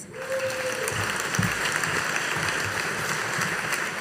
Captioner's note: audience applauding